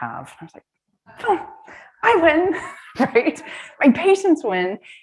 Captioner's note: laughs